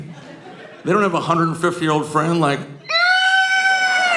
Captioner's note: screeching